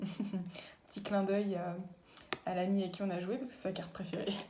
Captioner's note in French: rires